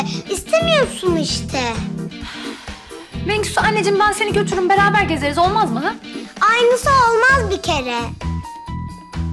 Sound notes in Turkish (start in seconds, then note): 2.1 Nefes sesi